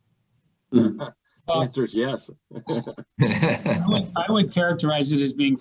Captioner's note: laughter